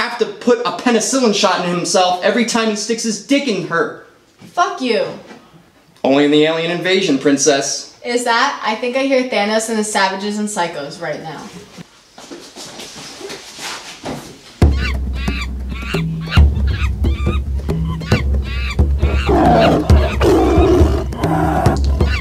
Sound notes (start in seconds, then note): 14.6 monkey noises; 19.0 tiger roars